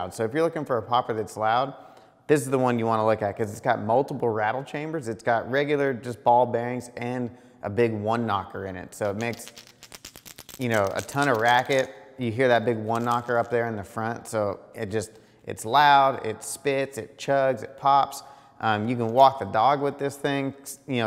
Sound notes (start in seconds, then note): 9.2 bait rattling